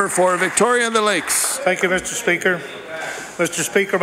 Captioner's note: applause